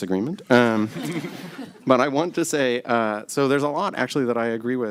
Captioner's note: laughter